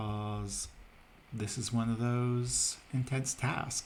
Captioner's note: fans begin to churn in the background